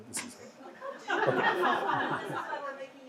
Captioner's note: audience laughs